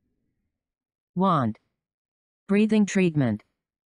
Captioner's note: automated voice